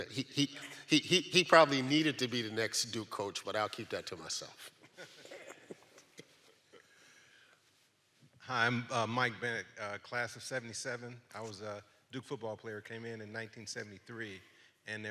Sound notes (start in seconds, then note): 5.0 audience laughs